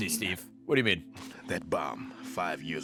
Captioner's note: none